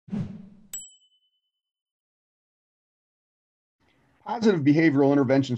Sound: whooshing; dinging

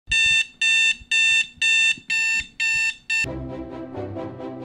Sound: alarm beeping

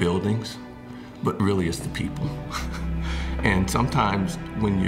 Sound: chuckles

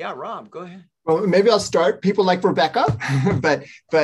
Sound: chuckles

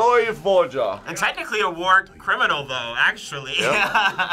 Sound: laughs

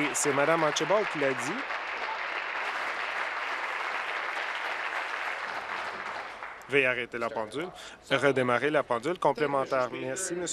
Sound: applause

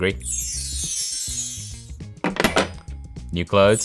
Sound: bells chime

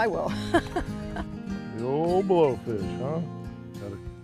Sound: laughter

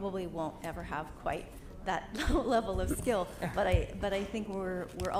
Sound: chuckles

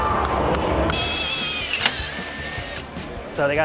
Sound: motor spinning

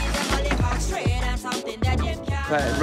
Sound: wood thumps

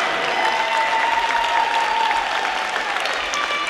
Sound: crowd cheers

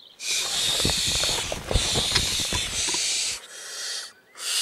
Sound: hissing

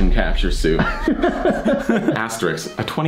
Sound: laughter

